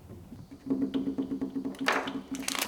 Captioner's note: clatter clatter